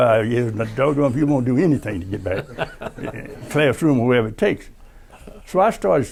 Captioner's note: laughter